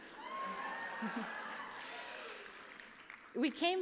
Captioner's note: cheers